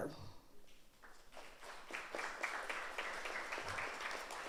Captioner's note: audience applauds